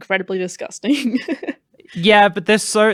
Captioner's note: laughs